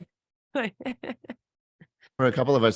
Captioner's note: chuckles